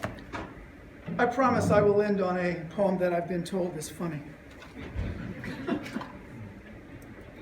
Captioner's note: laughter